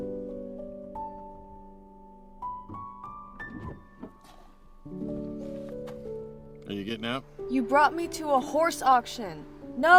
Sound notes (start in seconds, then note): 0.8 serene music continues; 3.3 door creaking